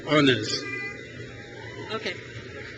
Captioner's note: crowd cheers